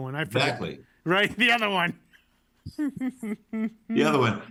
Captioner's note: laughs